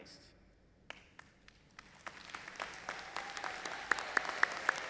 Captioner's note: audience applauding